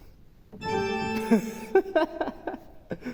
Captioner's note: laughter